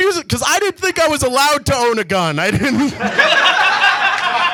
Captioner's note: audience laughs; laughs